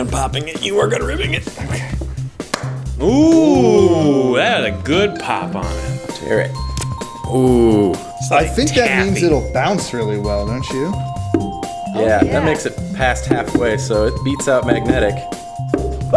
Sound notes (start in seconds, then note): 2.4 pop